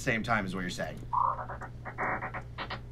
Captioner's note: digital noise